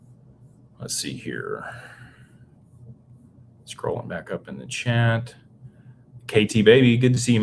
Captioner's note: sighs